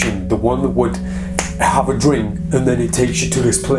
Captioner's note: fingers snapping